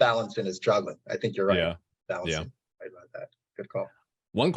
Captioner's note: audio distortion